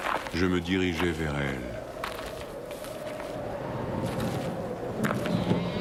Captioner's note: bleating